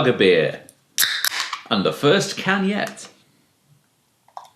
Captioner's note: cracking of top